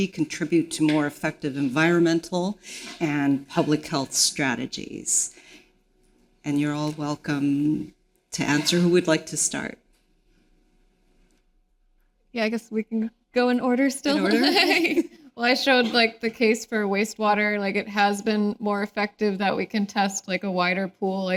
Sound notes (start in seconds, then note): 14.1 laughing